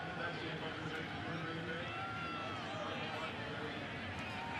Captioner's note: pa announcement